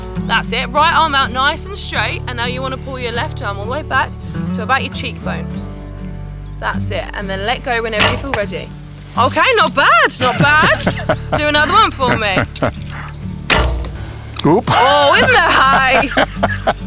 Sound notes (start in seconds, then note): 13.4 arrow thwacks